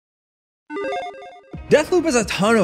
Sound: logo beeps

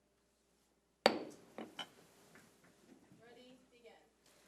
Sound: gavel bangs

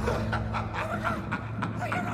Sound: laughing

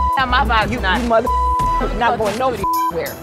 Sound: beep

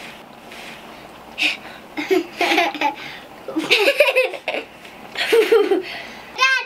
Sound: laughter

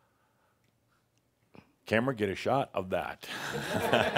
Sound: laughter

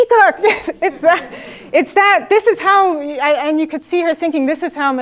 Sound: laugh

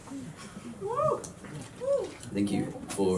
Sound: woo!

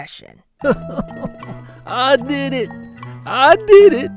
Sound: sobs

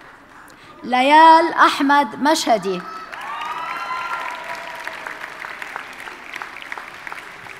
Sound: audience cheers and applauds

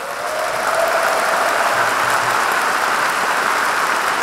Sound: audience applauding

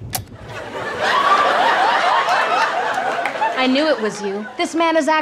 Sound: recorder clicks

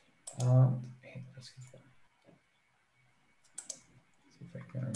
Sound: mouse clicking

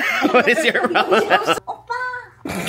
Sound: laughs

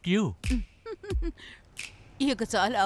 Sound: giggling

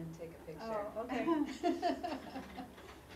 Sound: laugh

